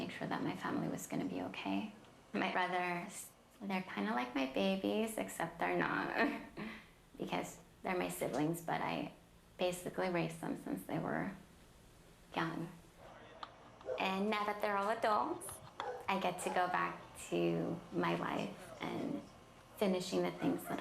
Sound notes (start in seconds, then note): 6.4 laughs